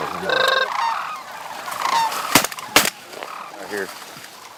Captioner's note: gun shots